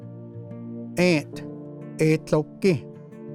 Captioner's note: repeats in Cherokee